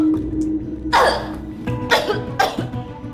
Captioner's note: hack!